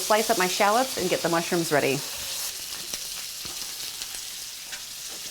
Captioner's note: meat sizzles